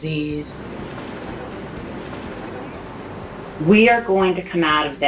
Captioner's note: whooshing sound